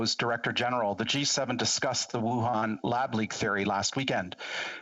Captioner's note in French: voix de l'interprète